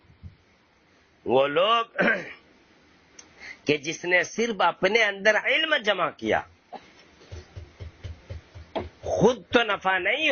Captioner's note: clears throat